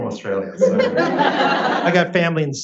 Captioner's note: audience laughs